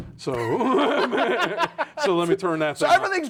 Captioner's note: laughing